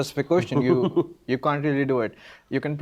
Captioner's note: laughing